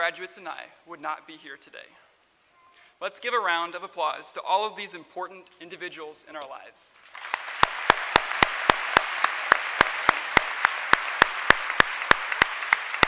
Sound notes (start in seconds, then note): 8.9 applause